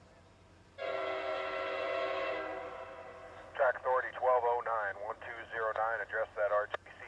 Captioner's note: train horn